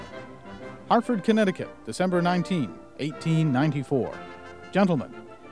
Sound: voiceover

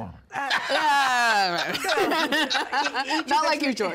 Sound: laughing

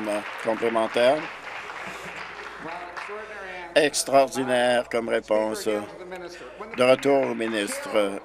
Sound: applause

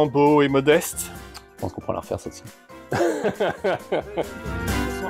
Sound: laughs

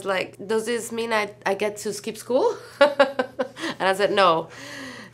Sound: laughs

